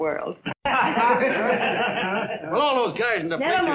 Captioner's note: laughing